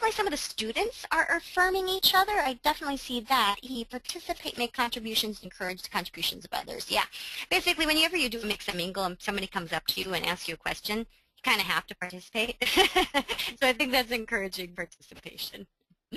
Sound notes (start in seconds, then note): 12.6 laughing